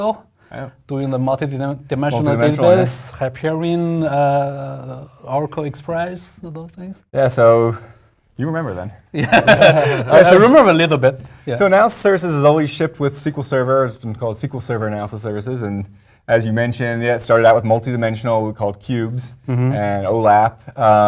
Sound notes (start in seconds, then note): 9.2 laugh